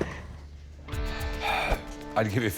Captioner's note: sighs